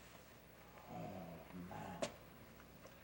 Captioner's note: Mike sighs